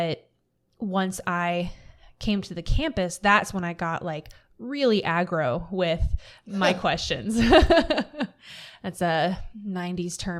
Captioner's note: laughter